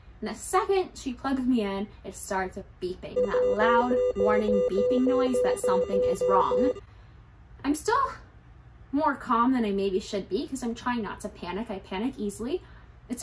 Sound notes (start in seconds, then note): 3.1 monitor beeping sound